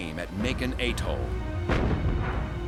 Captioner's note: gunfire